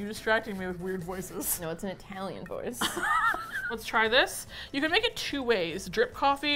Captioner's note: laughs